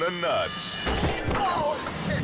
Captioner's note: log thuds; friend groans